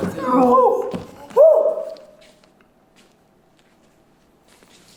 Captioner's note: howl